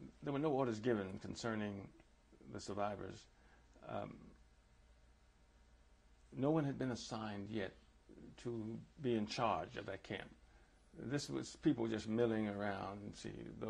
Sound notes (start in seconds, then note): 2.9 pauses for 3 seconds